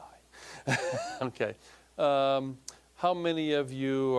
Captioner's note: laughing